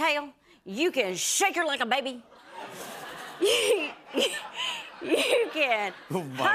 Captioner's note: laughter